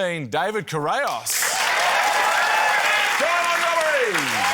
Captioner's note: cheering, applause